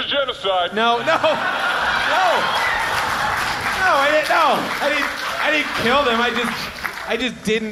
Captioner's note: audience laughs